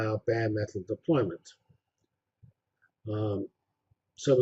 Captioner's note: pause